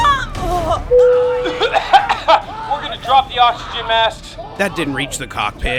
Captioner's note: choking